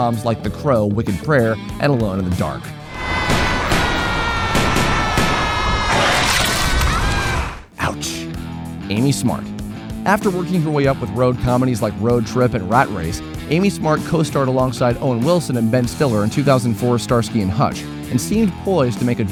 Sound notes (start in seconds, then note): 2.8 screaming while firing a gun at a Sharknado